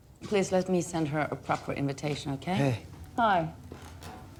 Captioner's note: none